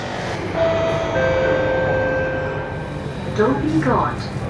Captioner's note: announcement chime